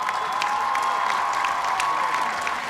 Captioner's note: cheers and applause